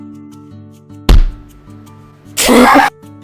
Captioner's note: slam